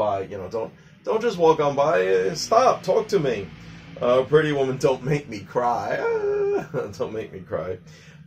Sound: crying sounds

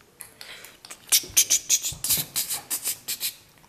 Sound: footsteps

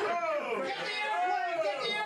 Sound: audience groans

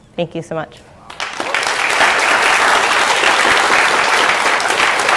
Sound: applause

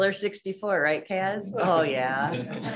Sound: laughter

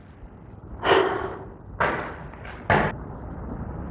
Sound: deep sigh

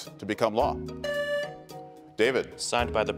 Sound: buzzer beeps

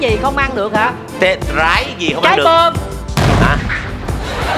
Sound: bomb

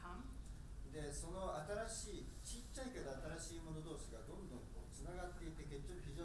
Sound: speaking in foreign language

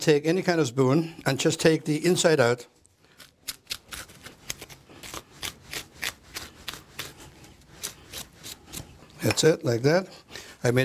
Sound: cutting sounds

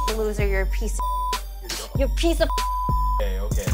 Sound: beep

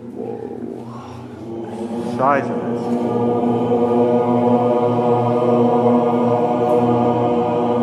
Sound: voices resonating

